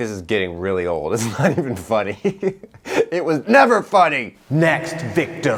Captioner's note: laughs